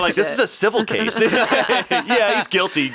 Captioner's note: all laughing